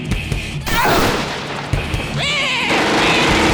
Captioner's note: rock music; electricity zapping; Roman soldier yelping; machine gun rattling; sheep bleating